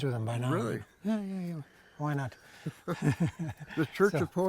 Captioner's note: laughs